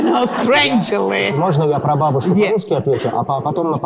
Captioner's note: speaking russian